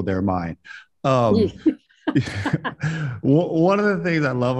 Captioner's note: both chuckle